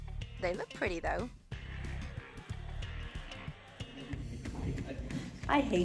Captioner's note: background laughter from colleague